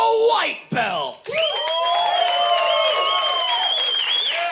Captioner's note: audience cheers